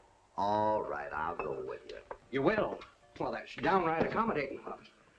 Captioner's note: none